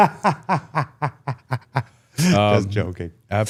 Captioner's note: Gunther laughs